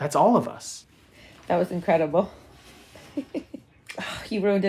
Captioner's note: chuckles